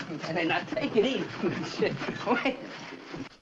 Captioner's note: jim chuckles